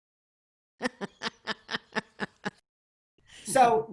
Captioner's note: laughing